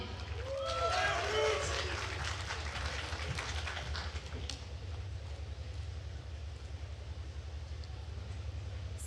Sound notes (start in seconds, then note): 0.1 attendees cheering and applauding